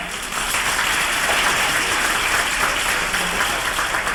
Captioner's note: applause